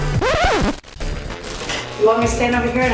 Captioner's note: record scratching